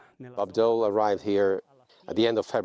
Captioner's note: speaking French; voiceover